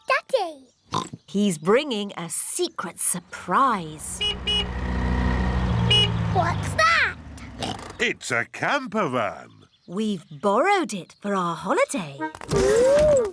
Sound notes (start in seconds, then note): 0.9 oinks; 3.3 horn honks; 7.5 oinks